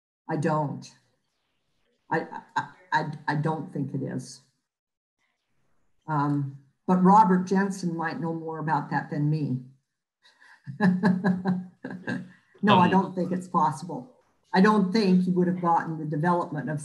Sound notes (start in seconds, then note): 10.2 laughs